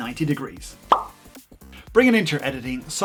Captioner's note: pop camera sound